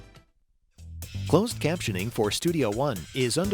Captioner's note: voiceover